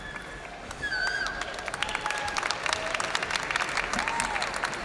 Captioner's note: audience cheering and applauding